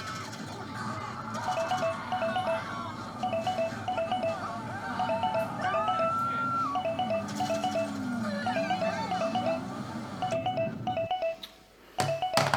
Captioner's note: phone rings